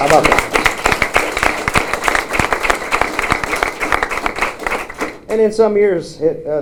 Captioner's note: applause